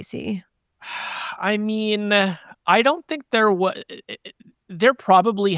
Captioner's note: sighs